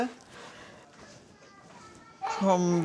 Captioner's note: distant children's voices